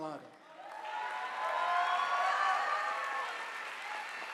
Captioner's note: audience applauding